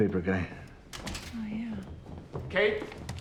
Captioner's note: door opening